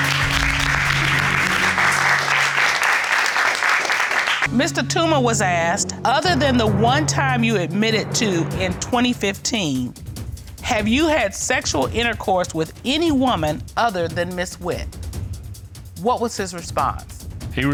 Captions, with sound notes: (AUDIENCE APPLAUDING) Mr. Tooma was asked, "Other than the one time you admitted to, in 2015, "have you had sexual intercourse with any woman "other than Ms. Witt?" What was his response?